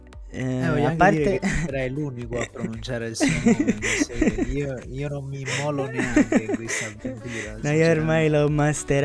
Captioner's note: laughs; they both laughs